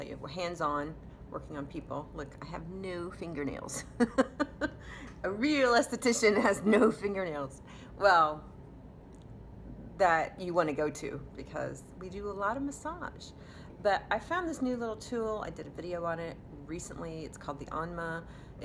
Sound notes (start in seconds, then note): 3.9 laughing